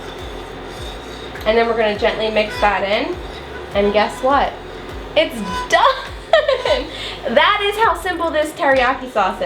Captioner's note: laughs